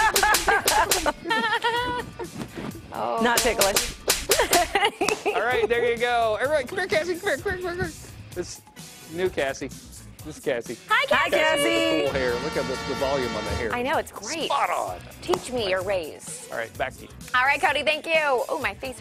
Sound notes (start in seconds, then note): 6.4 laughter